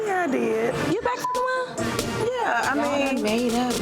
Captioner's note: beep